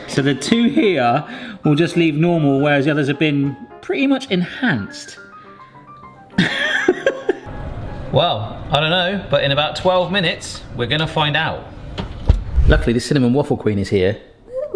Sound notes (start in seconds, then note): 6.6 laughs